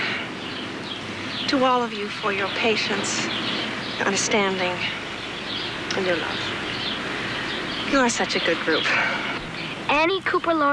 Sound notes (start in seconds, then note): 8.8 sighs